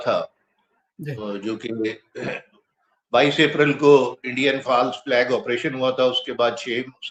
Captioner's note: clears throat